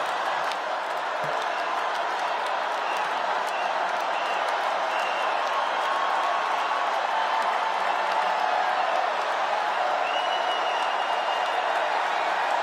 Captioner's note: cheers and applause